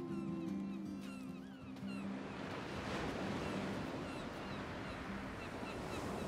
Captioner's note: waves crashing, seagulls cawing